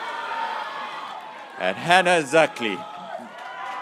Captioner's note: graduates cheering